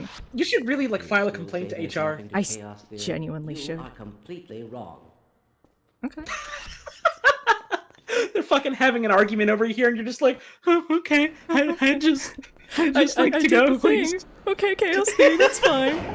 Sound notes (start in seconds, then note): 6.0 laughs